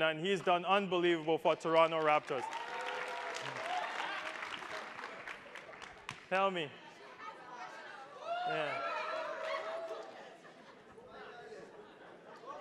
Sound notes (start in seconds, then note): 1.8 attendees applauding